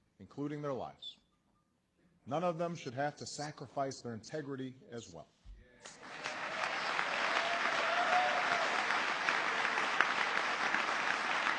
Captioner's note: applause